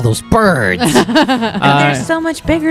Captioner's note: laughter